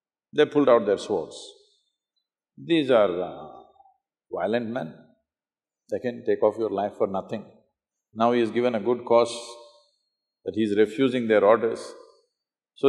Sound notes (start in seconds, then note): none